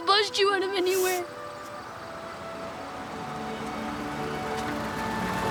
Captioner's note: vehicle approaching